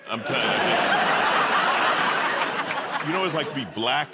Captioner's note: laughter